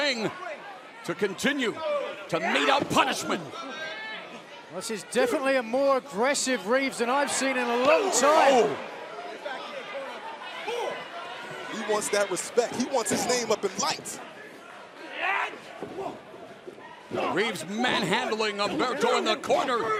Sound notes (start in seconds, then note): none